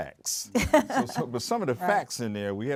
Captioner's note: laughs